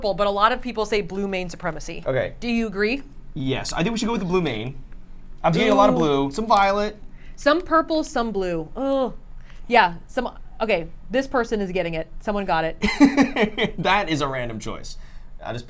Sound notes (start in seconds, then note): 12.8 laughs